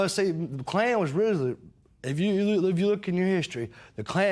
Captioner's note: none